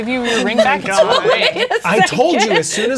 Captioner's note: laughing